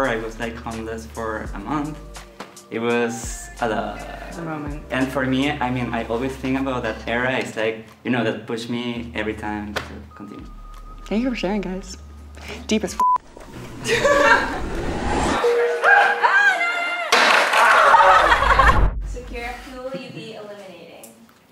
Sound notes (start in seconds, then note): 13.0 beep; 13.7 people laugh; 14.8 rising static; 15.2 beeping sound; 17.1 skateboard crashes; 17.6 person laughing